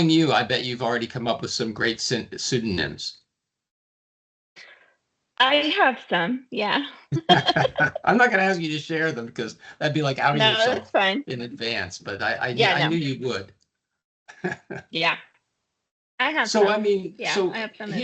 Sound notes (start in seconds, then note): 7.1 laughing; 14.3 chuckling